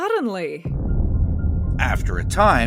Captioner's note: bomb explodes